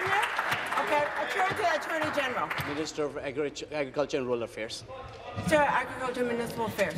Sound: applause

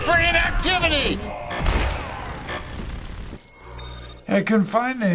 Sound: game warning blares

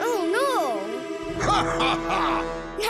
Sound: evil laugh

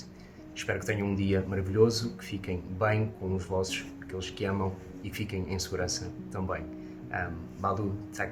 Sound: speaking Portuguese

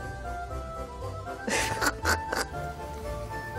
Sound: quirky orchestral music; woman snickering; quirky orchestral music

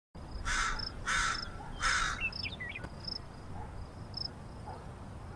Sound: bird crowing

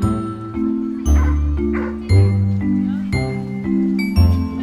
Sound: dogs Barks

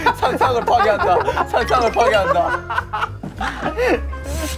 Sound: laughing at his own work

